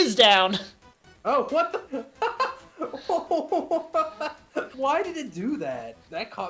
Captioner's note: laughs